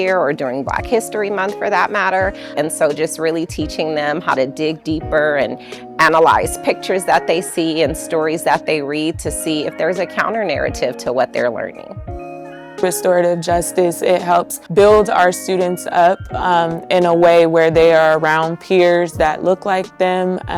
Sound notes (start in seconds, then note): none